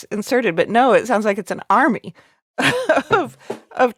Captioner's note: laughing